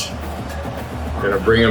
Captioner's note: crowd Noises